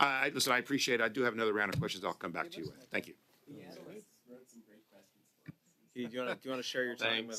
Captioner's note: laughter